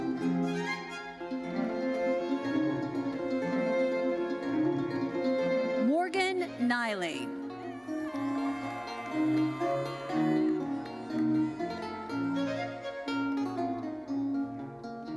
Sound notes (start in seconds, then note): 1.2 bright lively music continues; 7.6 audience cheering; 11.1 bright lively music continues